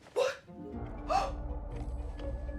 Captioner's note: gasping